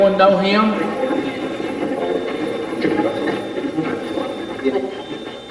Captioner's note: Steve's Box chatters